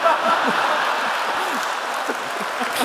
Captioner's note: laughs